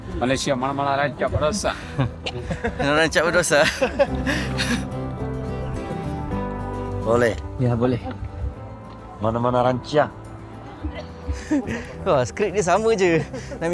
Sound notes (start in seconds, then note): 1.6 laugh